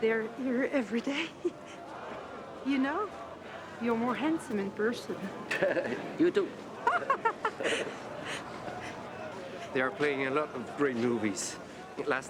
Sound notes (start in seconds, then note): 1.2 laughs; 6.8 laughs; 6.9 woman laughs